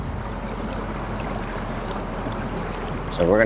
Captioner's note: water sloshing